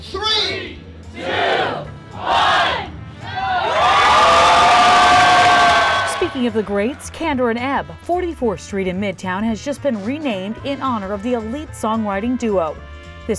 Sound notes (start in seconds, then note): 3.2 cheering